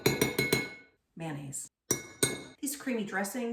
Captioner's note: spoon tapping